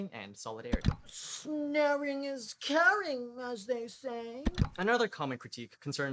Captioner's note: click; click